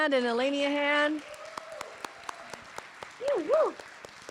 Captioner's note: applause